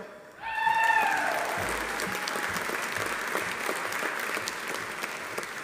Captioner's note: audience cheering; audience applauding